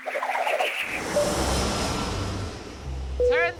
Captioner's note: engine hums